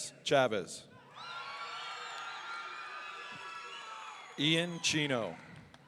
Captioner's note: audience cheering